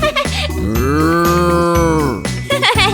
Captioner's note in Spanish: Risas; Sonido de vaca; Risas